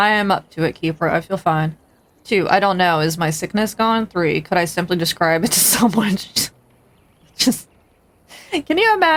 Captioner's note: laughing